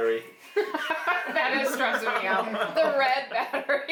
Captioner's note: laughing